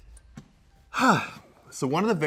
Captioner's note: sighs